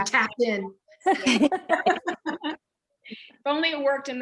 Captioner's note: laughter